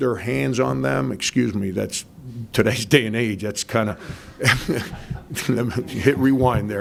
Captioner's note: laughs